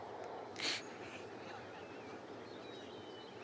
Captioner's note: Sniffs